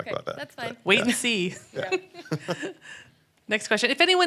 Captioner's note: laughs